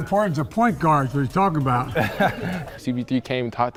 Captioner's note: laughing